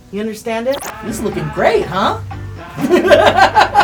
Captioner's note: laughing